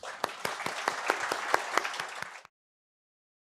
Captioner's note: audience applauding